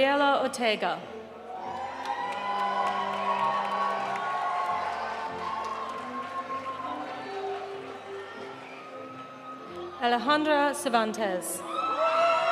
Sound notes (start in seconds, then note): 1.5 audience cheering; 1.6 audience applauding